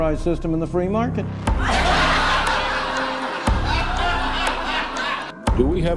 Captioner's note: crowd laughter